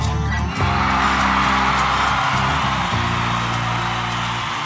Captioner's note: crowd cheering